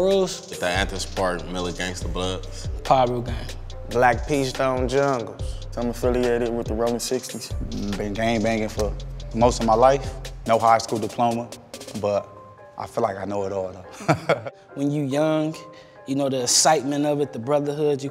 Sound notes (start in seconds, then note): 13.9 laughs